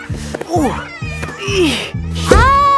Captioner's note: grunting